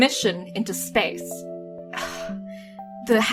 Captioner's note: sighs